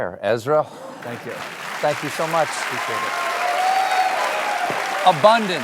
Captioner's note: cheers and applause